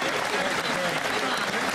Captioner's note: applause